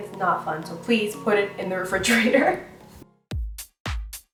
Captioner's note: laughs; upbeat music